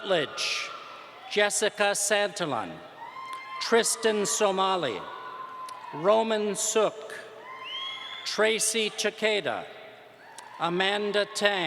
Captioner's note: applause